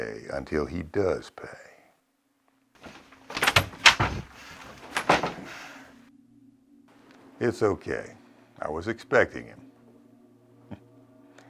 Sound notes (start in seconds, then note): 2.8 door bursts open